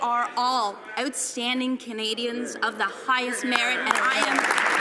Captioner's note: some applause